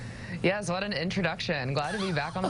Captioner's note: laughing